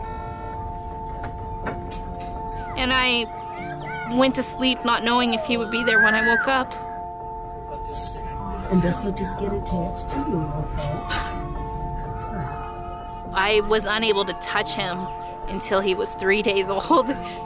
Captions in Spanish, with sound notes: Me acosté sin saber si al despertarme el estaría. [conversaciones de fondo] Esto irá aquí, ¿okay? Está bien. No pude tocarlo hasta lostres días de vida.